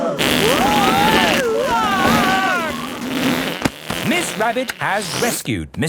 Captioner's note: crowd gasps; screaming